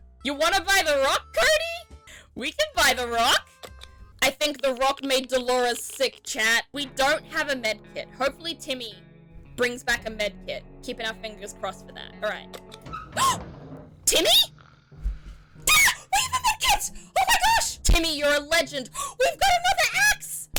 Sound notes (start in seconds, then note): 14.4 gasps; 15.5 shrieks; 18.9 gasp